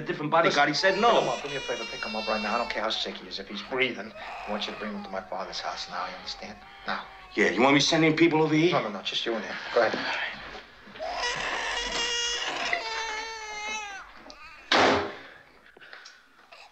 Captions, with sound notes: -He said no. -Come on, do me a favor. Pick him up right now. I don't care how sick he is. If he's breathing, I want you to bring him to my father's house now, you understand? Now. Yeah, you want me to send him people over here? No, no. Just you and him. Go ahead. [baby crying] [door closing]